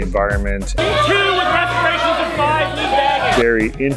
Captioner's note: inaudible yelling